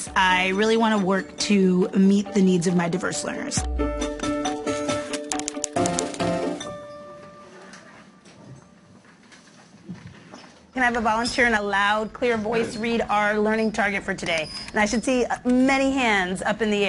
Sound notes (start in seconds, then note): 5.2 typing